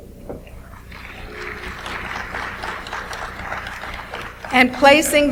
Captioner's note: audience applauds